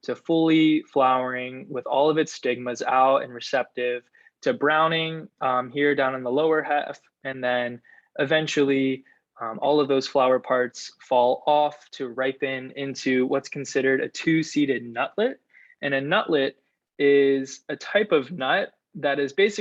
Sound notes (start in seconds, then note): none